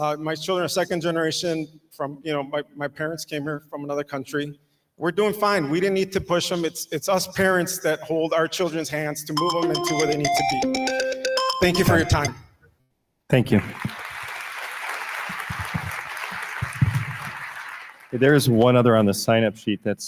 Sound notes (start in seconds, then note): 13.4 audience applauding